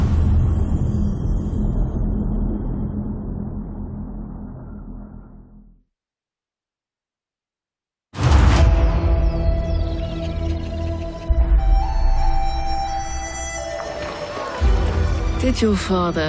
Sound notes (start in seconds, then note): 0.9 dramatic sound; 14.7 japanese-style music playing